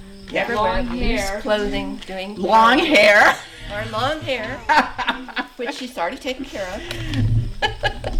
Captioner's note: laughter